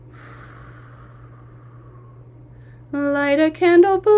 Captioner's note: exhaling